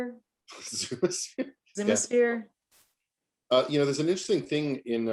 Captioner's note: laughs